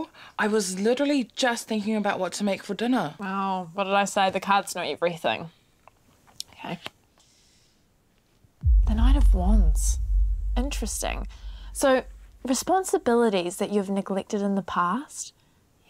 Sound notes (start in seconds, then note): none